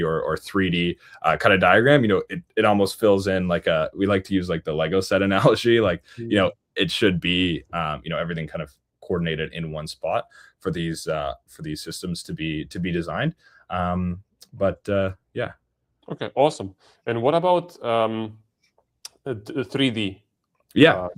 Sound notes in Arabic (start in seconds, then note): none